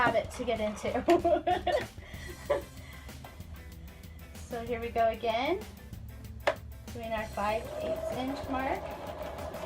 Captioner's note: laughs